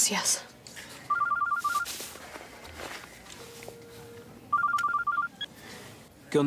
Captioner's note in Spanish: suena el celular